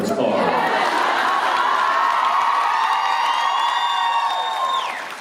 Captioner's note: cheers and applause